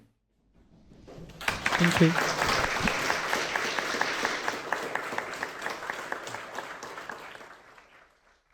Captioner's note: clapping; clapping